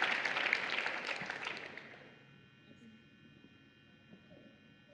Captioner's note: applause